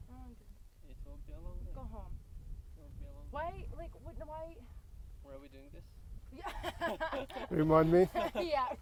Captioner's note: laugh